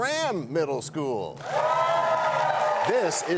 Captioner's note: cheers and applause